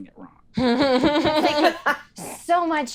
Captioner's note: laughs